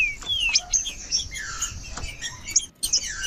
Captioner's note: trinca ferro cantando